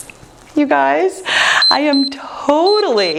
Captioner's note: timer beeps